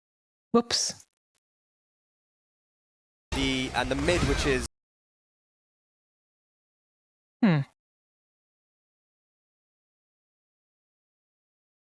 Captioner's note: audio cuts out